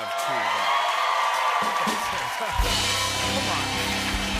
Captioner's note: cheers and applause